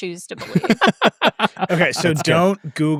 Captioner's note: laughing